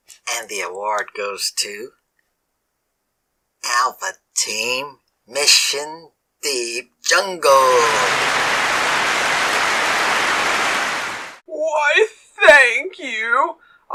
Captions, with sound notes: And the award goes to... “Alpha Team: Mission Deep Jungle.” [Clapping] Why, thank you.